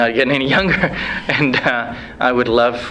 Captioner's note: laughs